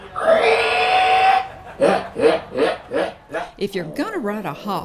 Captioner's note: hog squealing